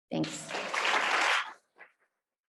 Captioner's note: audience applauds